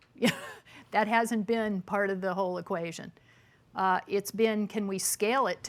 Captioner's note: chuckles